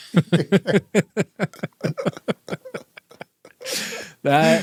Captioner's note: both laughing